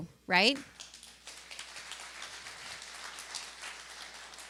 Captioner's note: applause